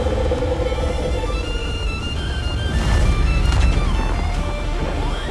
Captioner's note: roaring